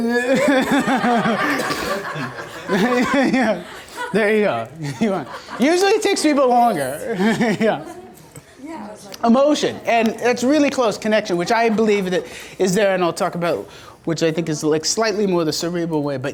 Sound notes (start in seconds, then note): 0.2 laughing; 8.1 voiceover